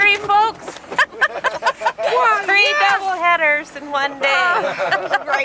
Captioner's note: laughter